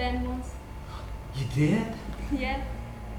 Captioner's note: gasp